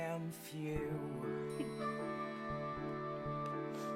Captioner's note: mary chuckles